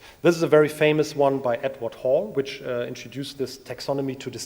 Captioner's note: none